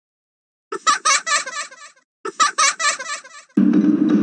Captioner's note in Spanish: Risa taladrante de Balloon Boy